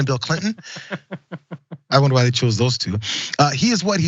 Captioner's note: laugh